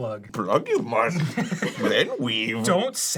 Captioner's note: arin, yoda voice